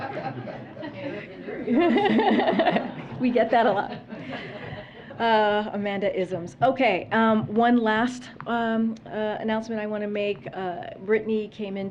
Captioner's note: laughter